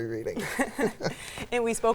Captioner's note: both laugh